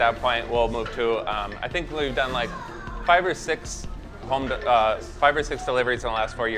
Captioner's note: humming